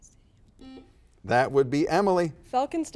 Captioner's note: buzzer buzzes